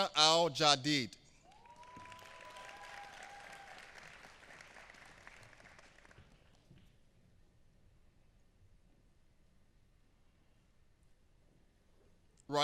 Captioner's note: applause